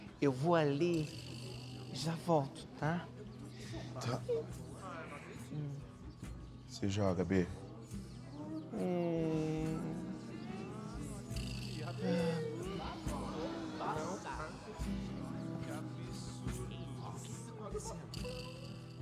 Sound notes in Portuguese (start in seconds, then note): 12.7 Outra voz